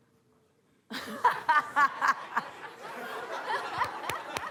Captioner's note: laughter